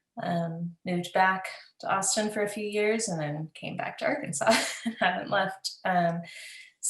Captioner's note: laughs